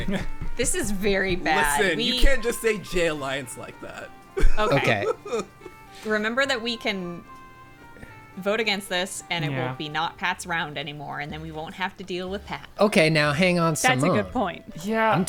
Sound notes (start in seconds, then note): 4.3 laughing; 12.8 pat